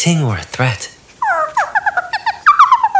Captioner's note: Mooncalf chitters